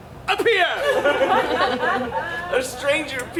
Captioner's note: audience laughs